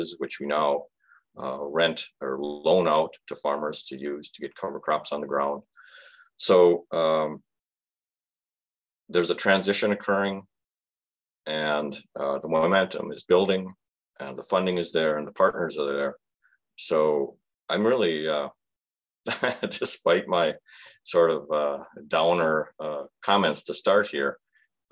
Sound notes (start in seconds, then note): 19.3 chuckles